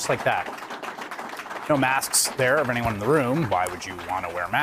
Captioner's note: cheers and applause